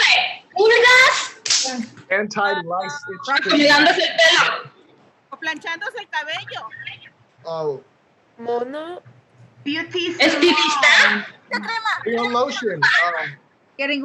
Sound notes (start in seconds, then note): 3.6 women speaking Spanish